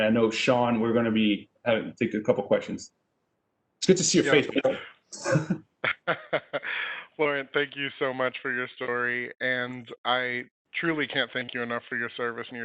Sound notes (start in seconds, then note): 5.1 laughing